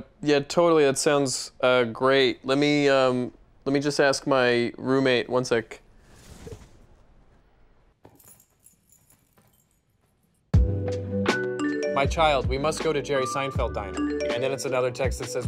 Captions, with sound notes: - Yeah totally. That sounds great. Let me, um, let me just ask my roommate. One sec. (keys clanging on tile)